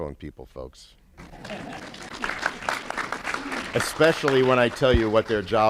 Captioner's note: applause